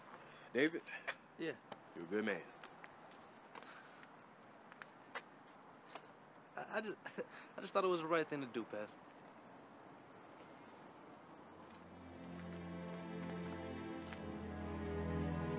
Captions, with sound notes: - Yeah? - You're a good man. - I just, (chuckles), I just thought it was the right thing to do, Pastor. (dramatic music)